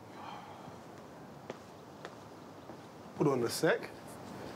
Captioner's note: footsteps plodding